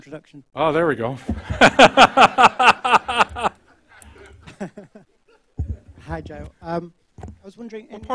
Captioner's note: laughter